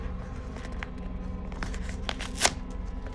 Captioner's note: paper rustling